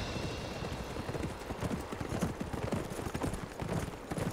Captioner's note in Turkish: At nalı sesi